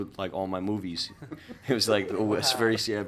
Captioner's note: light laughter